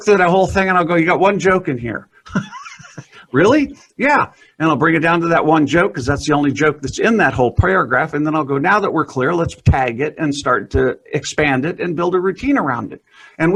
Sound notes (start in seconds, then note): 2.2 chuckling